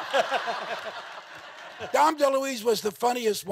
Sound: all laughing

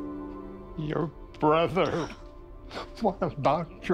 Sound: sobbing

